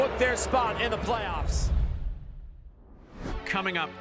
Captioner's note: graphic whooshing